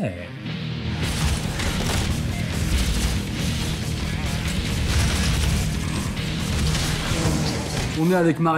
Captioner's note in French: bruits de tirs et d'explosions